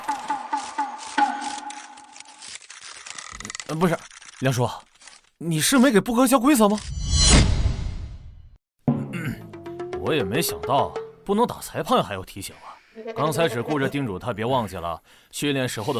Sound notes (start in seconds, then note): 8.9 cough cough